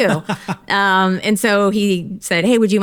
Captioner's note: laughs